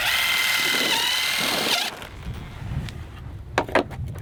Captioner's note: drilling